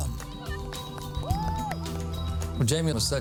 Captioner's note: girls clapping